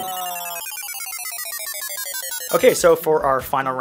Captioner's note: beep